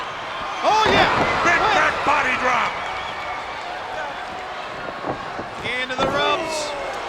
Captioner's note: body thudding; footsteps plodding; blows thudding